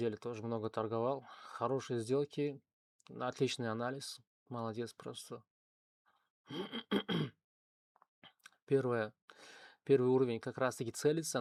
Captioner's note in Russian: откашливается